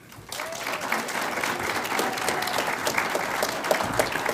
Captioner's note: audience applauds